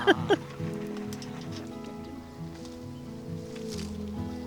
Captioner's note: laughs